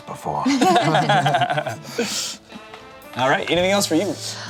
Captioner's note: laughs